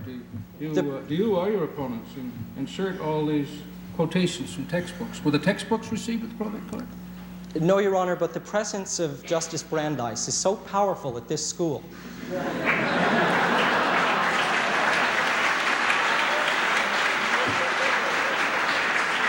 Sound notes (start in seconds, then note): 12.2 laughter; 14.8 applause